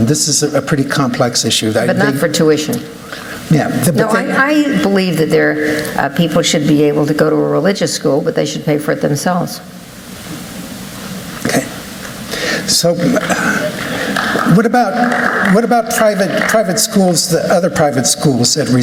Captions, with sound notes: This is a pretty complex issue. But not for tuition-- Yeah. No, I believe that people should be able to go to a religious school, but they should pay for it themselves. OK. [APPLAUSE] What about other private schools that